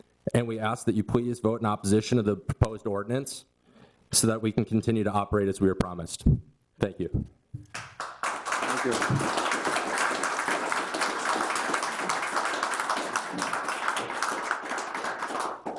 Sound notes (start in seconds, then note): 7.7 audience applauds